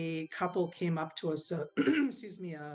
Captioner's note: clears throat